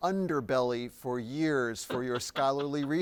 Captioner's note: chuckles